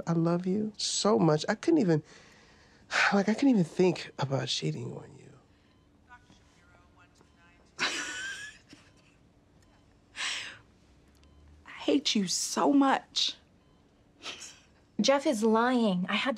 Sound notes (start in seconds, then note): 2.9 sighs; 6.1 over P.A; 7.8 chuckles; 11.7 over P.A